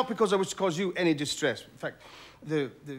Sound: exhales

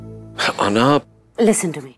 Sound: sighs

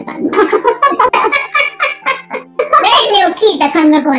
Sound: laughs

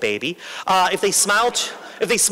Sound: laughter

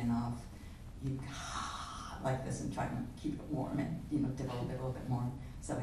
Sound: breathing hot air

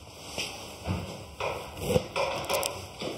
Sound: knocking in the background

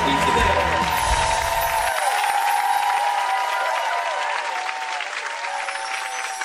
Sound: crowd cheering; wind chimes ring

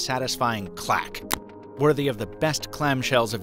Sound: clicks

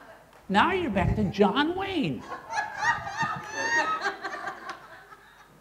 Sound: laughter

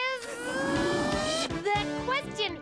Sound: upbeat music; Tizzy buzzing

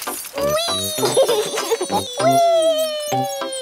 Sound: laughs

